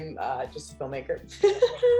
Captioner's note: laughs